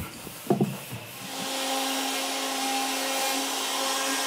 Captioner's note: loud milling